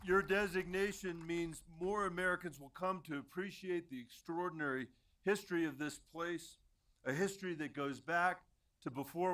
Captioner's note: applause